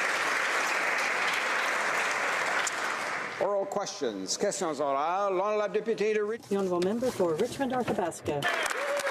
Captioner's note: applause